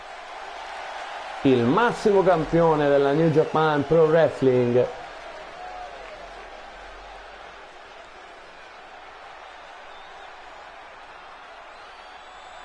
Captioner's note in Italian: Applauso